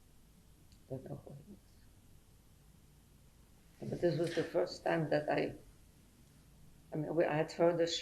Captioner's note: pauses for 3 seconds